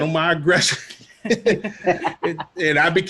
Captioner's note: all laughing